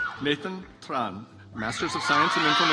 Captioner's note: audience applauds